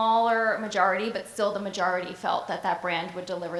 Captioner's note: none